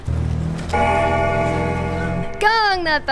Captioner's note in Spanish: campana